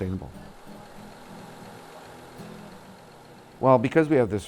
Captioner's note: engine runs